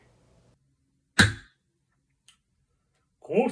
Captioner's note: gavel